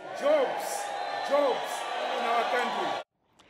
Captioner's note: cheering and applause